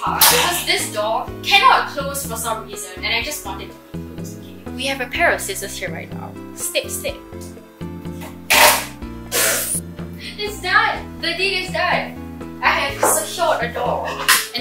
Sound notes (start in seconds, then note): 8.5 tape rips